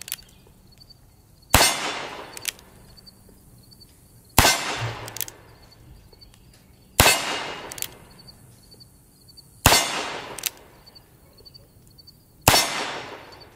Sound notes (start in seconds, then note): 0.0 click; 1.5 gun fires; 2.4 click; 4.3 gun fires; 5.0 click; 7.0 gun fires; 7.7 click; 9.6 gun fires; 10.4 click; 12.4 gun fires